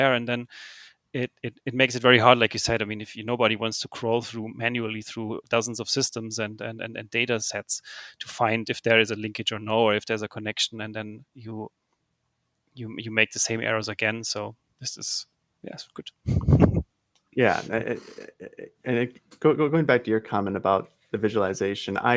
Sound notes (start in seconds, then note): 16.2 laughs